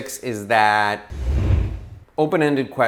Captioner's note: whooshing sound